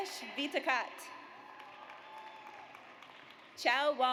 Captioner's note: audience applauds